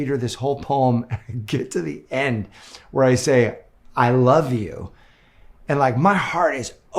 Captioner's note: laughs